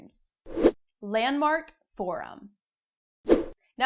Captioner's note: air whooshing